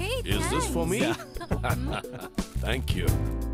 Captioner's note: Laughs